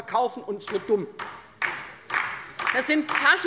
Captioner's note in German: Beifall bei der LINKEN